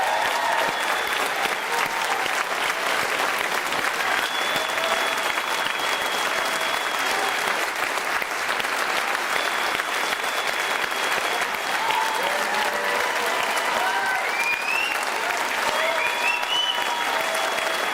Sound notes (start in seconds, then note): 1.8 cheers and Applause